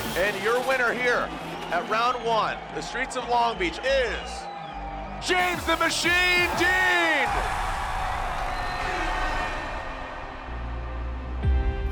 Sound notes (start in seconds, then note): 7.1 crowd cheering; 10.4 bright music